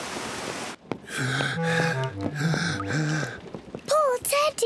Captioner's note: breathes heavily